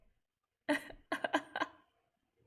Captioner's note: laughs